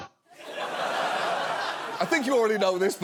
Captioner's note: audience laughs